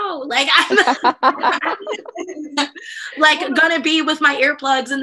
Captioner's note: laughter